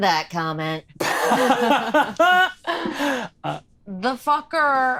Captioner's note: laughing